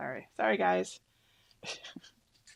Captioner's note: laughs